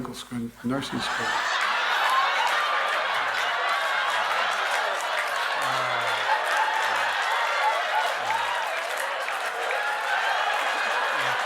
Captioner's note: laughter